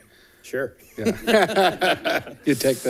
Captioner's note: both laughing